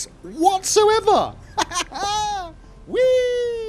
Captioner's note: laughter